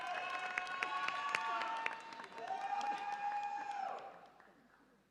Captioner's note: audience applauds and cheers